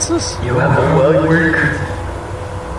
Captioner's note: distorted